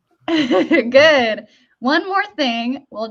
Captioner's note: chuckles